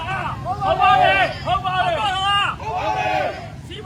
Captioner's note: crowd